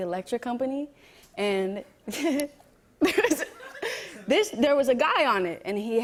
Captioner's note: laughs